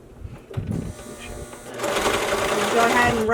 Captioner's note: machine whirring